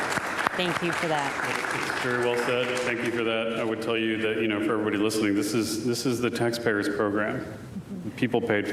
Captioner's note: applause